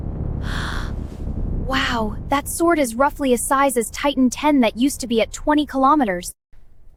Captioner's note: gasp